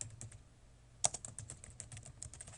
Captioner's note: typing